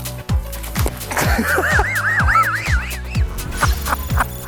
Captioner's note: laughter